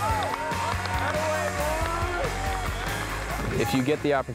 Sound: cheering

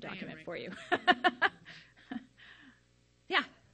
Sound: laughs

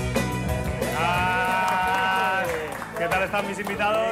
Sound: Aplausos

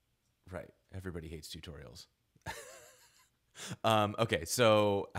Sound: laughing

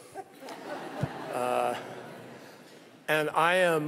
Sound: laughter

